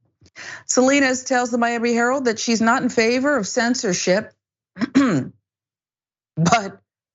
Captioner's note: cough